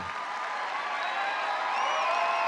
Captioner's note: applause